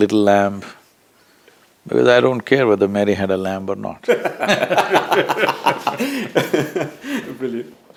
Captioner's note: laughter